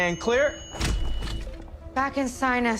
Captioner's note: chest paddles thudding